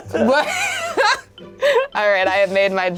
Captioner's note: laughs